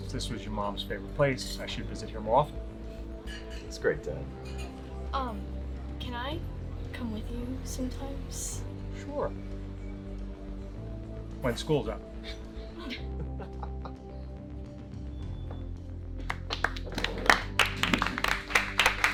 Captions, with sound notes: - I've decided since this was your mom's favorite place, I should visit him more often. - That's great dad. - Can I come with you sometimes? - Sure, when school's out. (all laughing) (all clapping)